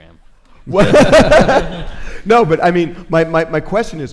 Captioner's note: laughs